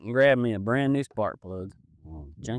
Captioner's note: none